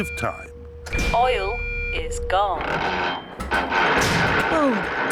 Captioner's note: creaking